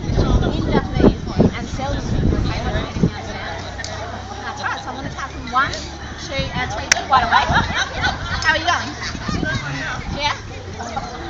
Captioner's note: clap